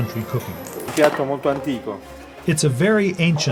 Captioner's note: speaking Italian